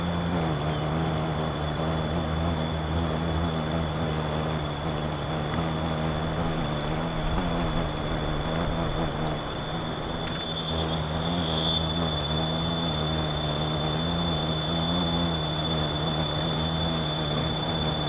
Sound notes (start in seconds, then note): 0.2 bird's wing flapping; 0.2 birds chirping; 9.4 bird's wing flapping; 9.4 high-pitched ringing